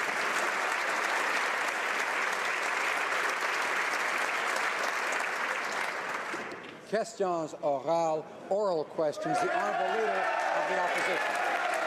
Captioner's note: applause